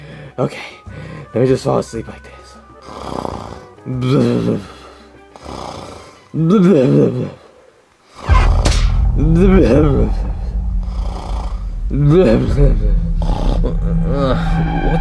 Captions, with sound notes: Okay, let me just fall asleep like this. (Koopa snoring) (vent squeaking) (dramatic music) (Koopa snoring) (Koopa groaning)